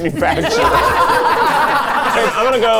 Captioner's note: all laughing